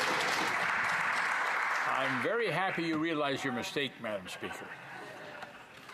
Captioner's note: some Applause